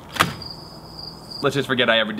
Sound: crickets chirping

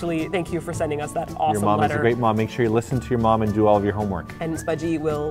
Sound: none

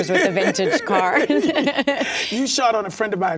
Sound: laughs

